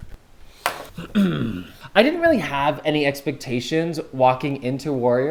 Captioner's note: clears throat